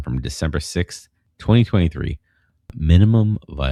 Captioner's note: uh